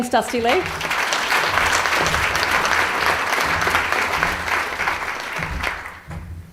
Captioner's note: audience applause